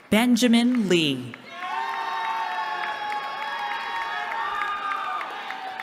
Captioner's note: cheering